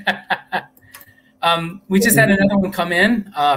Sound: laughter

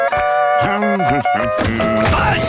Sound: humming; yelling

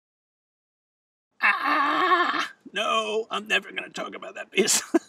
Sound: shouts; chuckles

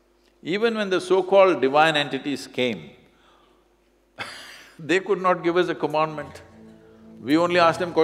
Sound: laughs

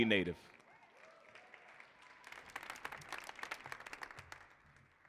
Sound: audience applauding

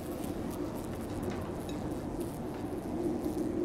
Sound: fly buzzing; wind howling

